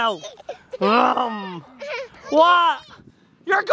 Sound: laughing

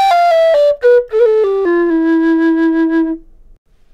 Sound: whistle

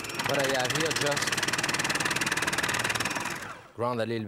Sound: food processor grinding

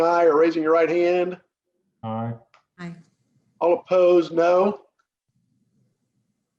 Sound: silence

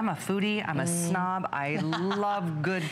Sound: laughter

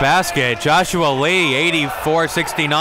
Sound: cheering and applauding

